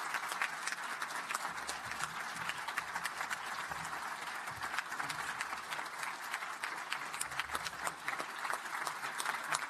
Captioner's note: applause